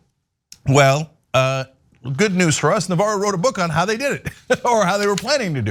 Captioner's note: laugh